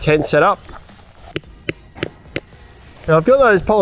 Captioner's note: hammer bangs